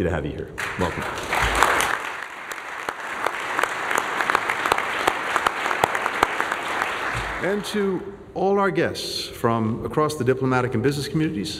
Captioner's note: applause